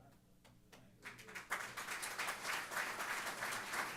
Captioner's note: applause